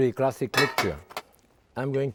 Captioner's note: lid clanging